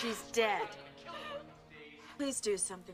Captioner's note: past Michael, echoing